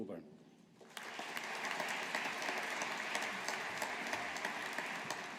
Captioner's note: audience applauding